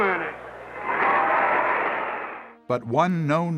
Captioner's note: crowd cheers